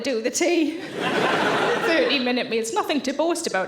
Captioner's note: audience laughing